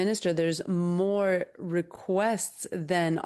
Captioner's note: speaking in French